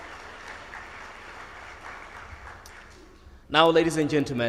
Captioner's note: audience applauds